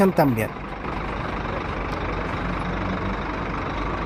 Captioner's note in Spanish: sonido ambiente con el bus celeste de ETM